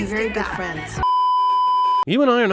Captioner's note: beeeeeeeeeeeep